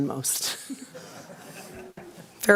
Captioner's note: laughter